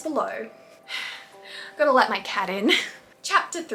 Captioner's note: sigh